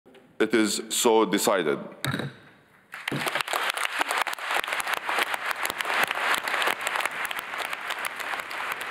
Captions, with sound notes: - It is so decided. (gavel thuds) (people applauding)